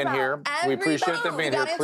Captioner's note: girls arguing